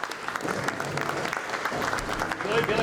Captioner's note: applause